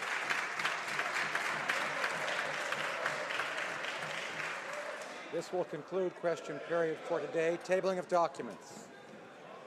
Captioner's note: some Applause